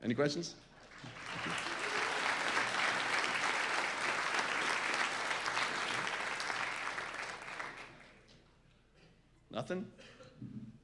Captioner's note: applause